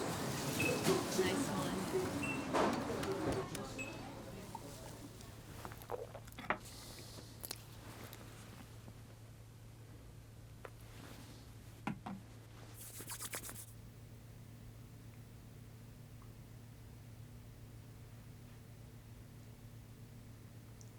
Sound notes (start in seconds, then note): 5.6 swallowing